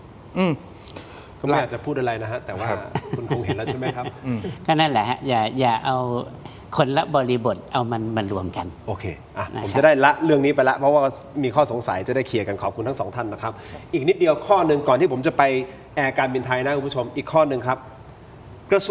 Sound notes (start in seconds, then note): 2.9 laughter